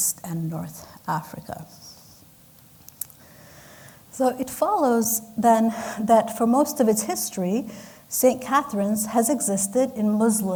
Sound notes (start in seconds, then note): none